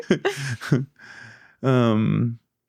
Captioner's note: laughing